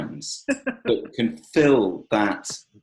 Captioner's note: laughing